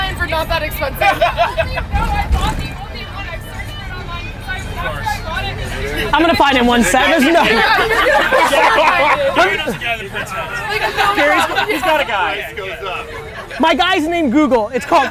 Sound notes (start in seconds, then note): 8.6 laughter